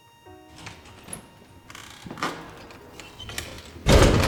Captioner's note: door opening and closing